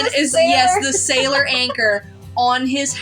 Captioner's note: giggle; laugh